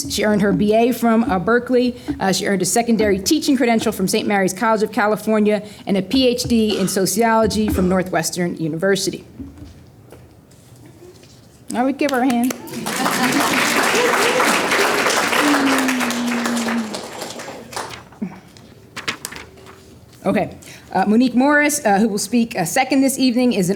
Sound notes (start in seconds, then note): 12.0 applause